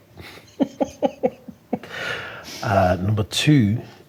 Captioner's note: laughing